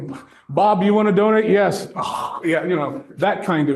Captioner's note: exhales